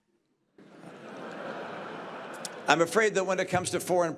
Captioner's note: laughter